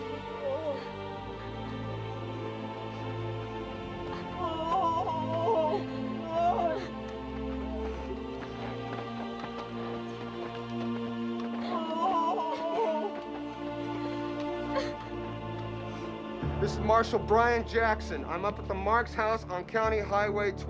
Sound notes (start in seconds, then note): 3.6 sobbing; 11.4 crying